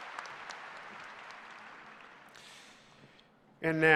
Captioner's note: applause